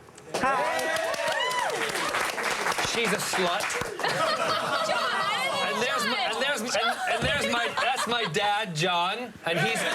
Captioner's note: applause